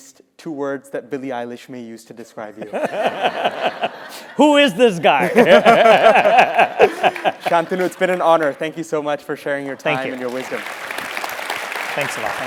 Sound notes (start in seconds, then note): 5.2 laugh